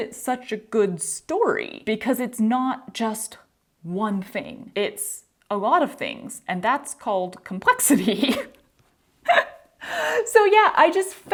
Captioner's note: laughter